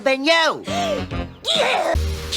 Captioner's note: gasp